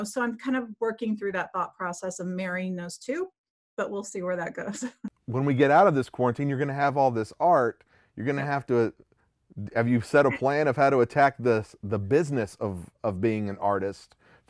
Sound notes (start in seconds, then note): 4.6 laughs